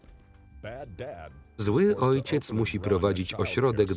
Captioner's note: voiceover